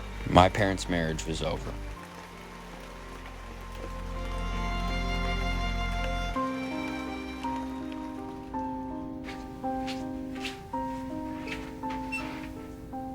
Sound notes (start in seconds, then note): 3.4 melancholic music continues; 3.4 rain pattering continues; 9.5 feet rustling